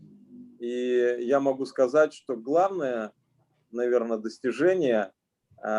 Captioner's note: speaking Russian language